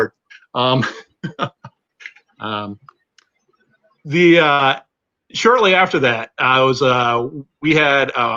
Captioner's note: laughter